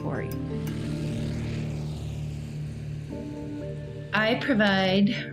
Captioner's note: engine rumbling